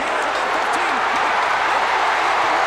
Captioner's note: crowd cheers